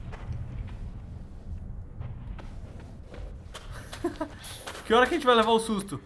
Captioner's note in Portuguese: risos